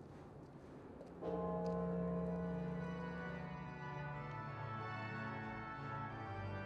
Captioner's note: bright organ music; bell tolls